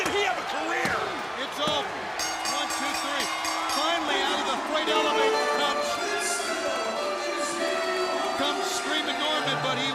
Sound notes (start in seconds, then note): 2.1 bell ringing